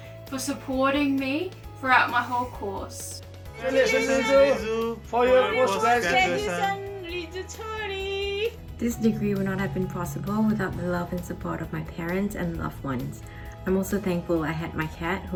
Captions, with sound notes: for supporting me throughout my whole course. (men and woman speaking in foreign language) - This degree would not have been possible without the love and support of my parents and loved ones. I'm also thankful I had my cat